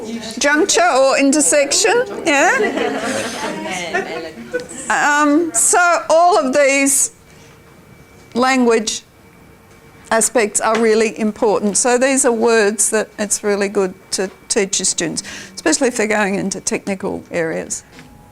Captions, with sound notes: Juncture or intersection. [audience chatter] So all of these language aspects are really important. So these are words that it's really good to teach your students, especially if they're going into technical areas.